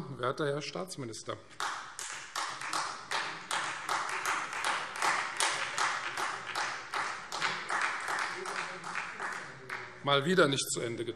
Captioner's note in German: Beifall Freie Demokraten und vereinzelt SPD